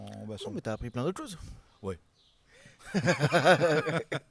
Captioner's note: laughs